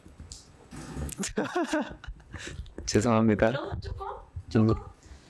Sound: laughs

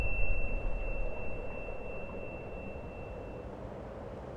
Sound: beep; wind blowing

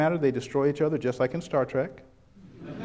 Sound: chuckles

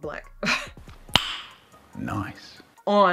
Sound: tongue pop

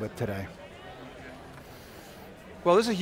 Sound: people chattering

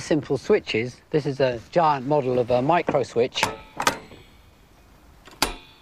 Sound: clunk clunk

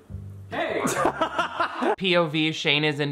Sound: laughing

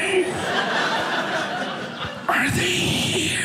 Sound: audience laughing

